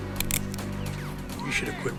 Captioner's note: gun clicks